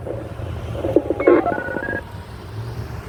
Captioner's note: telephone noise